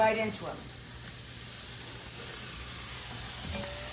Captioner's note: sizzling